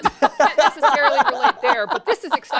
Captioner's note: laughter